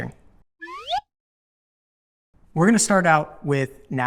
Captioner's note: slide whistle blows